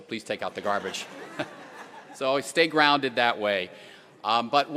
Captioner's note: laughter